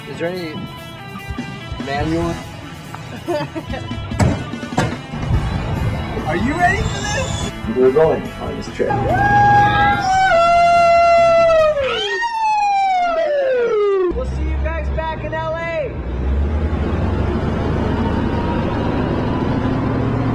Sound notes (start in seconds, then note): 2.7 upbeat music continues; 8.6 cheering; 16.6 engine revving